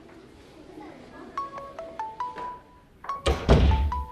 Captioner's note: mobile ringing; door closing